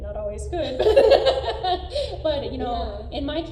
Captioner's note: laughter trails off